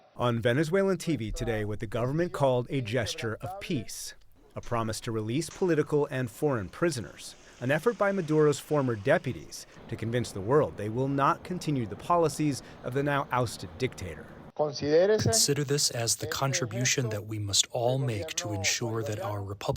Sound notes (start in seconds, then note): 15.5 through translator